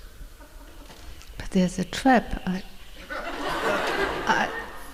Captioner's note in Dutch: gelach